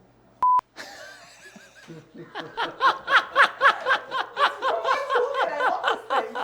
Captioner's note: laughs